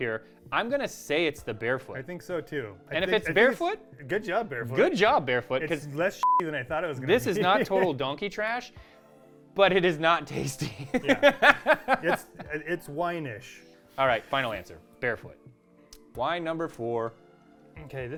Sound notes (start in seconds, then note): 6.2 beep; 10.4 laughing